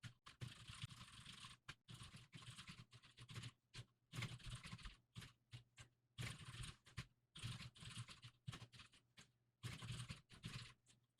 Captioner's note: typing sounds